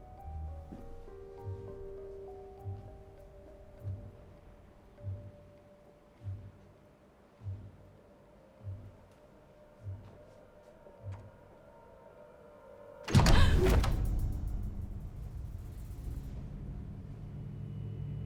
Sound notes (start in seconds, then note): 13.0 dramatic music; 13.3 gasping